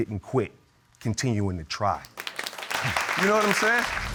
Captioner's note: audience applauding